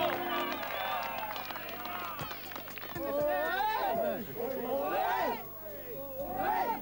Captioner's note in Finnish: Aplodeja